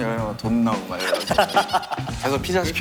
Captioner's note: haha